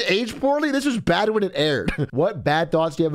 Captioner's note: laughs